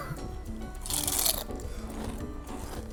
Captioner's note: crunch